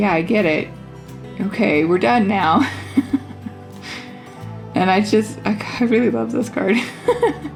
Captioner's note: laugh; sigh